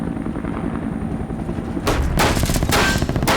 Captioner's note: firing